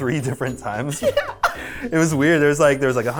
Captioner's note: chuckling